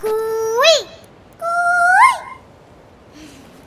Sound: mimicking cuckoo's voice

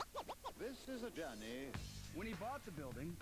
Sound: male, in British accent

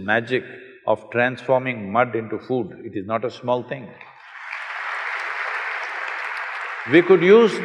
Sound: applause

